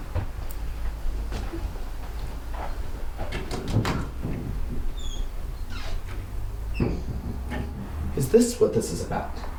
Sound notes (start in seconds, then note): 1.2 footsteps; 3.7 door squeaks opens